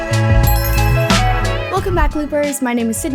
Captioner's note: logo chiming; upbeat music continues